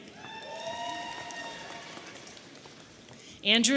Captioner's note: audience cheering